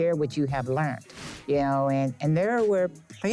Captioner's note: air whooshing